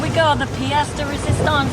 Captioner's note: waves breaking